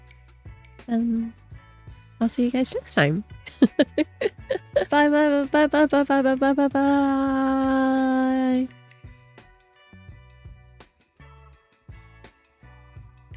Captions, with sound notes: ... then I'll see you guys next time! [laughing] Bye bye bye bye bye bye bye bye bye~